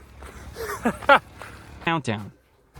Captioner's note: laughs